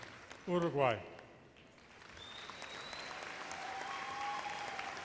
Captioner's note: audience applauds